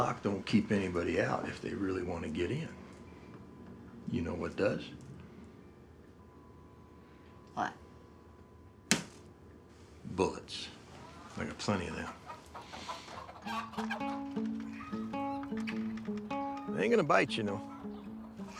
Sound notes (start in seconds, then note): 12.4 chickens squawking and clucking; 13.5 gentle bright music